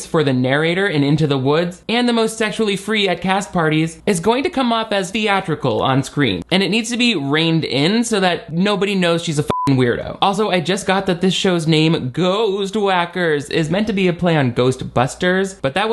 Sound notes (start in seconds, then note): 9.5 beep